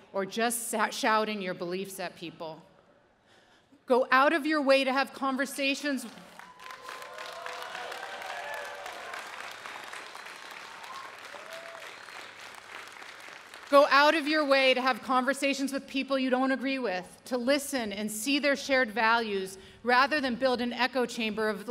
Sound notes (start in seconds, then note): 6.2 audience applauding